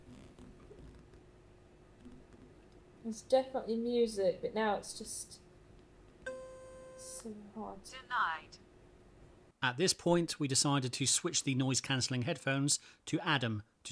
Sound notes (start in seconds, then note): 6.2 device beeps